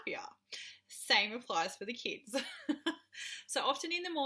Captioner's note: giggles